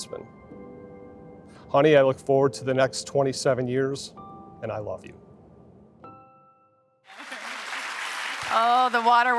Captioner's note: applause